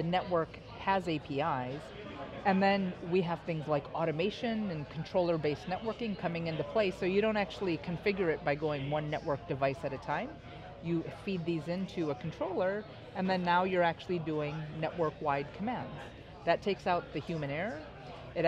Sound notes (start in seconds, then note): none